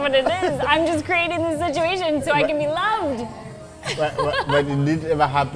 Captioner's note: laughs